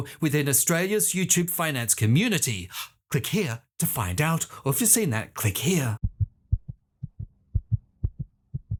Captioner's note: heartbeat